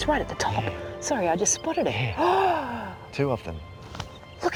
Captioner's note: gasps